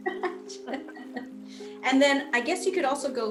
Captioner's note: laughing